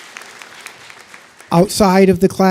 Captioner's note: applause